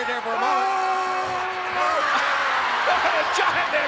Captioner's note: Andre and Warrior scream; crowd cheers